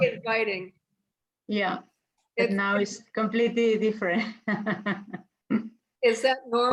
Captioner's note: laughs